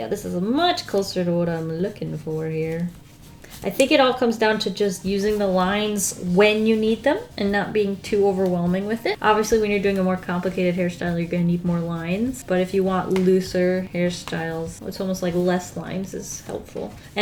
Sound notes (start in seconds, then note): none